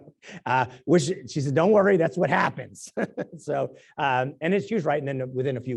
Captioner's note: laugh